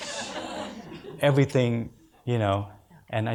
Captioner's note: audience laughs